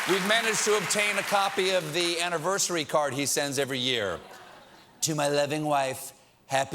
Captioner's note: applause